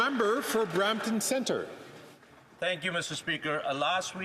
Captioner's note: some Applause